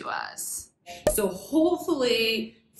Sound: popping sound

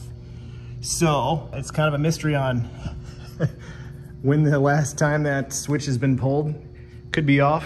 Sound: chuckles

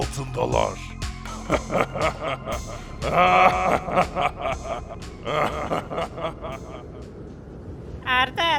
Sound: laughter

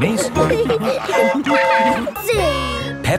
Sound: train whistle toots

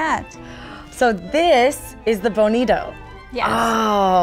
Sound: gasps

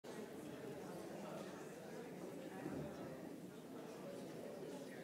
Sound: audience chattering

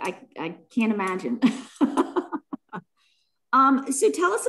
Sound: laughs

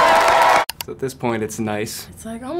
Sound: everyone claps and cheers; computer click

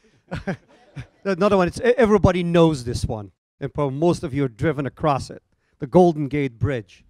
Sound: laughing

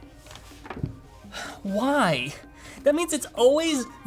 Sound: sighs

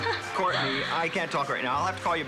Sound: giggles

